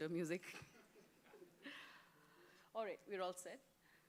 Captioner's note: laughter